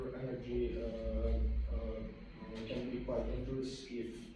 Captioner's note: stuttering